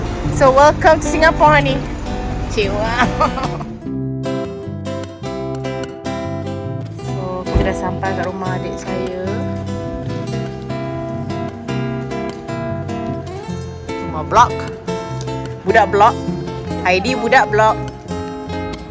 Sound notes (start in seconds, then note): 2.9 laugh; 4.8 background music; 10.2 background music